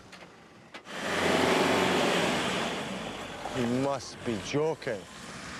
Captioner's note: engine rumbling